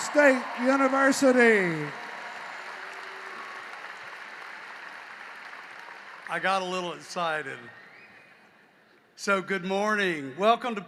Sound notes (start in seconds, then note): 2.2 cheering and applause